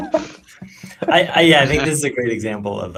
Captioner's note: laughter